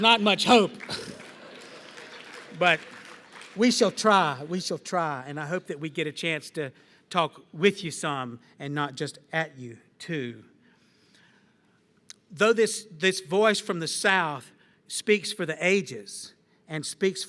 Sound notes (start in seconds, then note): 1.9 applause